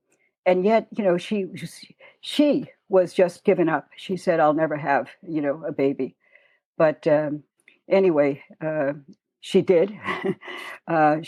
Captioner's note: chuckle